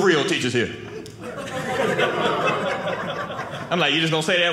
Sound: audience laughing

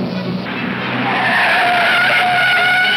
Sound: tires squealing

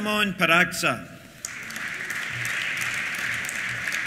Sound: applause

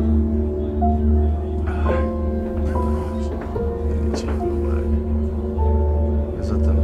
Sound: indistinct chatter

